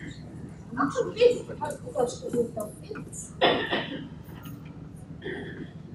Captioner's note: speaks foreign language